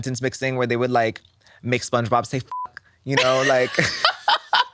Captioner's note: beep; laughs